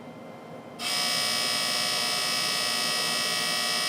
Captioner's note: laser buzzes